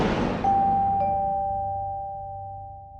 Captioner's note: air rushes; ding